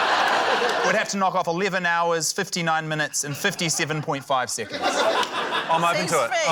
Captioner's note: laughter